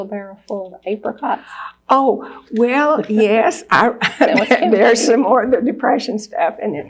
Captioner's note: laughs